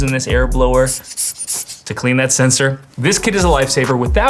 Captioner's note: air blower blowing